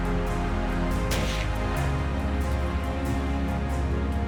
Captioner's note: gunshot